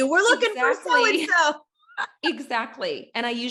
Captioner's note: laughs